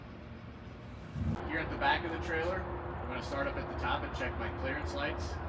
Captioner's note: machine whirring